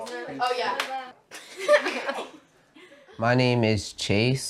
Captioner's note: laughs